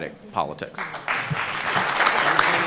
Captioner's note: audience applauds